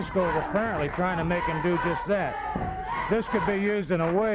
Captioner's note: wrestlers grunting